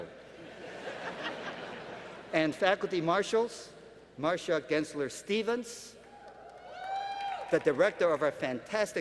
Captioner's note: laughter